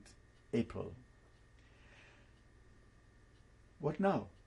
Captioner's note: pauses for 3 seconds